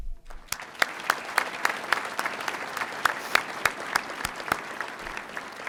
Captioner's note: audience applauding